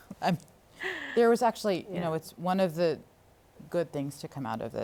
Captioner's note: laughs